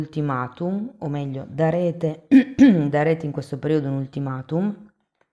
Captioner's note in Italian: schiarire la voce